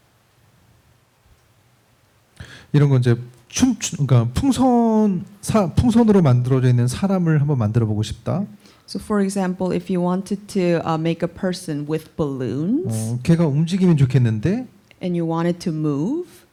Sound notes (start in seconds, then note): 2.5 speaking korean